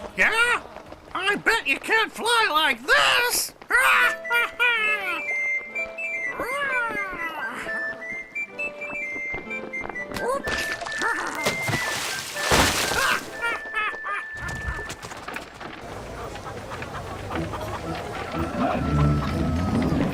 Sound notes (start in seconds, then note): 5.1 lively music; 13.3 Rupert laughing